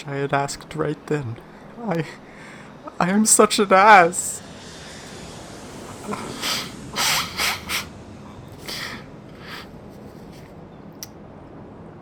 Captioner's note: SFX: nose blow, twice